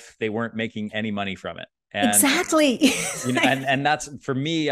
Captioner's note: chuckles